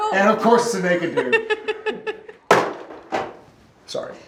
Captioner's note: Genevieve laughing